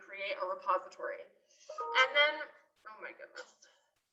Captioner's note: notification sound